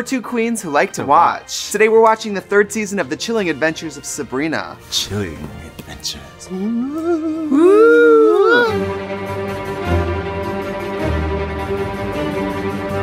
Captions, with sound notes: - And we're two queens who like to watch. Today we're watching the third season of the Chilling Adventures of Sabrina. - Chilling adventures. (eerily moaning) (dramatic instrumental music)